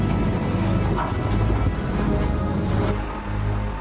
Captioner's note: metal clunks